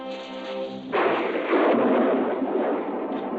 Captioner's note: thunder rumbling